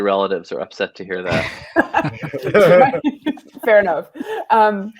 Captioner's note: all laughing